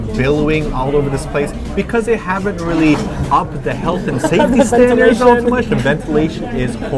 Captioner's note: laughs